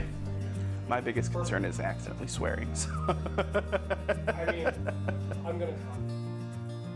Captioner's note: laughs